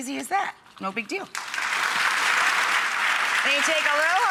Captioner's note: audience applauds